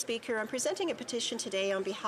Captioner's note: speaking French